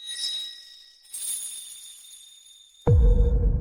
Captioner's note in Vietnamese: chuông